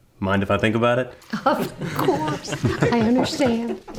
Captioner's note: everyone giggling